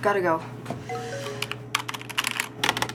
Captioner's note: phone chimes